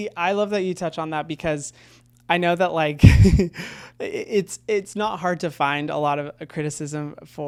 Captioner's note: laughs